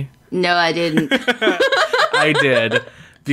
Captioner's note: laughs